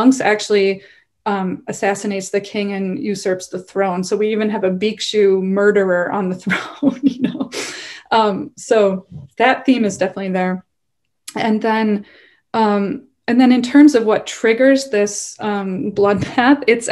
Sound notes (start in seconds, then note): 6.8 chuckles